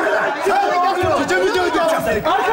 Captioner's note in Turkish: bağrışmalar